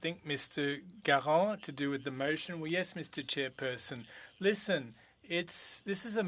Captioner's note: speaking French